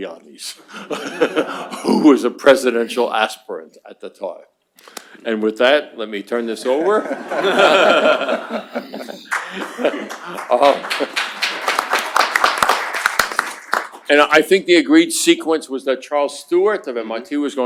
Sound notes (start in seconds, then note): 6.8 laughter; 9.2 applause